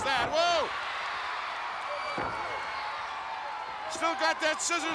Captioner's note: crowd cheers